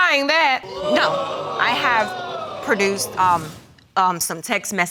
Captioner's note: audience exclaiming